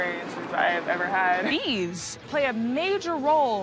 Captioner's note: none